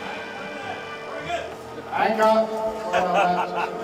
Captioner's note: indistinct chatter; men laughing